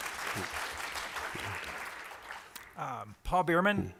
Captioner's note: applause